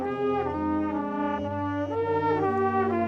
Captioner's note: none